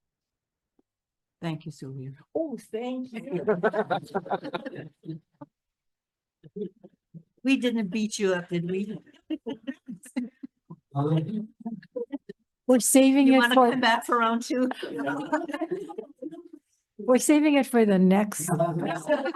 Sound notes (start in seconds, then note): 3.1 people laughing; 8.3 laughs; 15.1 people laughing; 18.4 people laughing